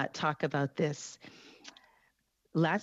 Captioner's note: speaking French